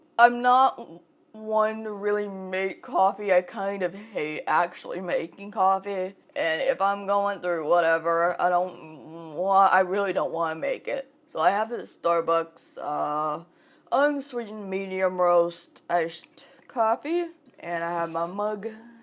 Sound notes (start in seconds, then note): none